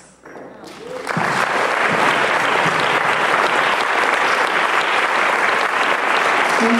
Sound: applause

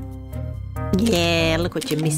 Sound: camera clicking

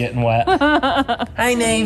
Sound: laughs

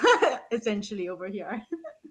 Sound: laughing

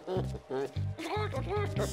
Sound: imitating chicken clucking

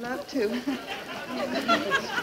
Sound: audience laughing; chuckling

